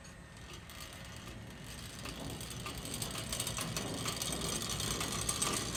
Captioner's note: sawmill grinding back